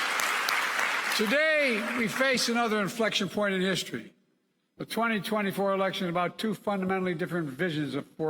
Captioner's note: applause